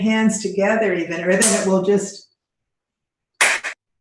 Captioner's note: clapping hands